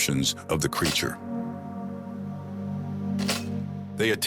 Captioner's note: camera shuttering